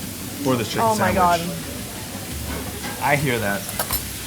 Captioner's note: dishes sizzling